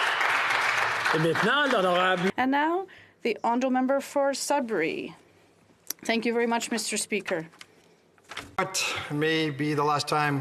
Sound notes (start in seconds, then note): 0.0 applause; 5.6 speaking French